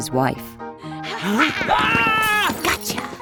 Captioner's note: Joseph screams